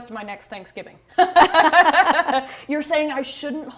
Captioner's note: both laugh